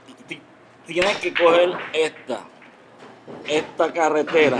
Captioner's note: stuttering